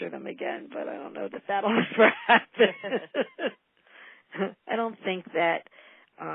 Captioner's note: laughter